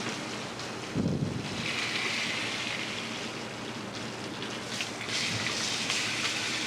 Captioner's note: sizzling